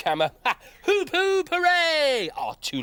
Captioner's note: laughs